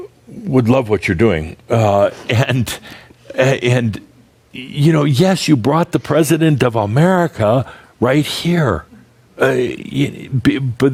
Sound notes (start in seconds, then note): 2.1 they chuckle